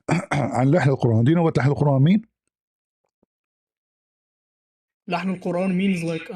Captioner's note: clears throat; reads in Arabic; Arabic